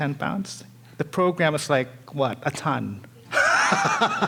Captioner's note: laughing